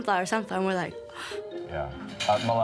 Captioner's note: gasps